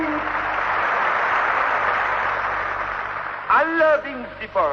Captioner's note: applause